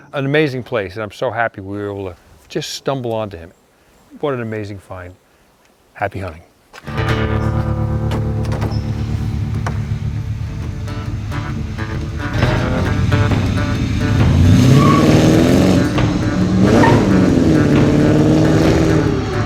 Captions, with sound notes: An amazing place and I'm so happy we were able to just stumble onto him. What an amazing find. Happy hunting. (country music) (tires screeching)